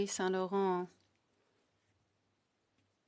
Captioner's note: speaking FRENCH